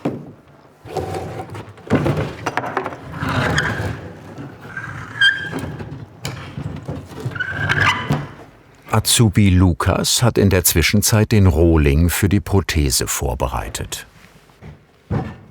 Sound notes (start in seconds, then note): 1.9 clattering; 3.0 scratching, squeaking